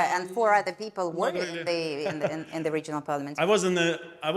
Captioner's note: laughing